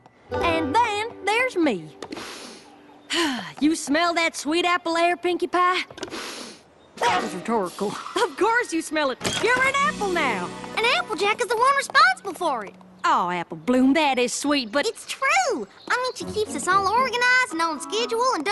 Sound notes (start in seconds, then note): 2.1 inhale and sigh; 6.0 sniff